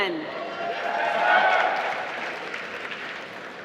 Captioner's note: applause